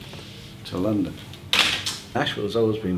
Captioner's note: plastic crash